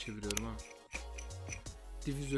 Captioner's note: screw turning sound